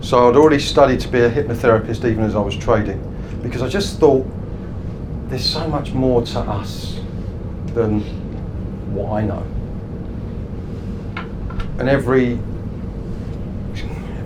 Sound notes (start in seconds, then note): none